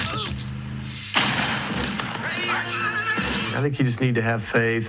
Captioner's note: gunshots